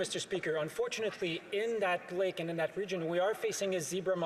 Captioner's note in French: voix de l'interprète